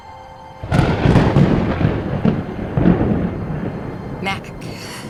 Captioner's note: lightning cracks